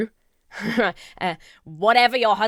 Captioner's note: chuckles